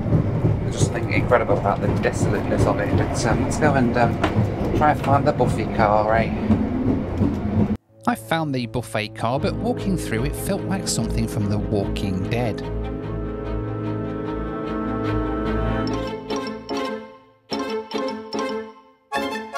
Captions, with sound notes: I just think incredible about the desolateness of it. Let's go and try and find the buffet car, all right? - [Voiceover] I found the buffet car, but walking through it felt like something from the Walking Dead.